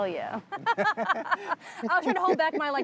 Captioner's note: both laughs